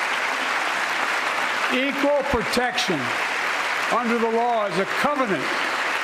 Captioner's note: applause